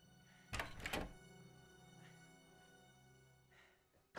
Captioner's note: door clacks